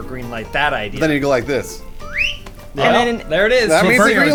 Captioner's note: whistles